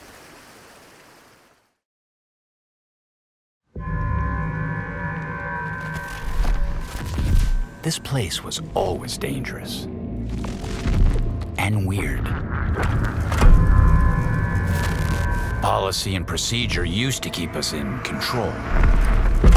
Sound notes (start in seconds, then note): 4.0 dark music playing; 12.5 sinister quacking